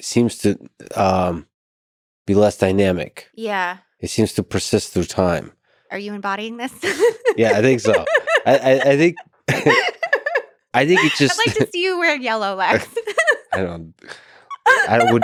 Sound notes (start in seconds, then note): 8.3 both laugh; 12.7 laughs